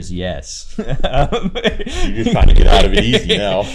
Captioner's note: interviewer and interviewee laughing